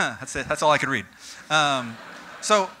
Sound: audience: Laughter

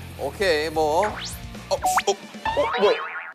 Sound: spattered water drops; splash!

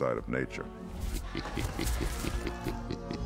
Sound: chuckung

